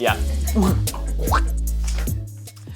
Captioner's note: retches; blows air